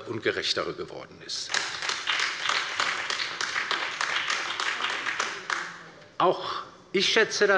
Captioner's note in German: Beifall bei der LINKEN und der SPD